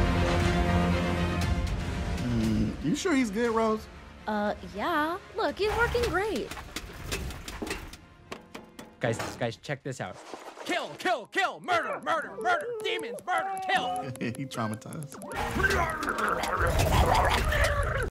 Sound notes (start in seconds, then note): 6.7 unstable rattling; 14.3 soft laugh